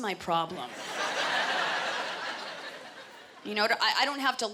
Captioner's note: laughter